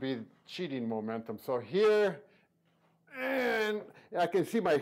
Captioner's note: grunting